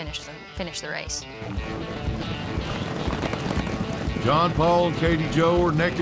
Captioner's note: fast hoofbeats